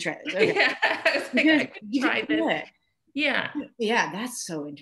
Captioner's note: laughs